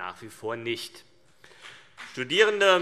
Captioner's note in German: Beifall CDU und BÜNDNIS 90/DIE GRÜNEN